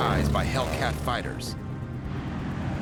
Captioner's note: engine roaring